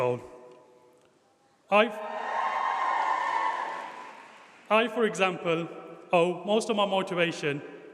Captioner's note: applause